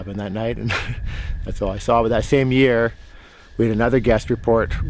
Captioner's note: chuckles